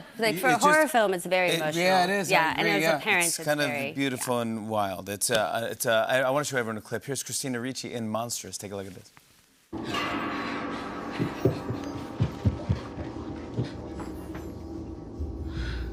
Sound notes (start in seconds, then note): 9.8 breathing heavily